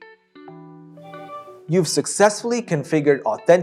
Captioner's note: machine chimes